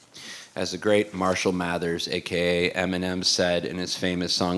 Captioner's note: none